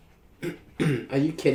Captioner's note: clears throat